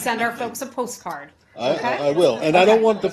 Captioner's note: laughter